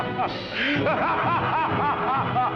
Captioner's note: laughter